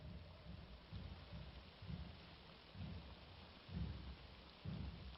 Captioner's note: water spraying